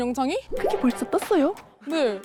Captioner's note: sound of panic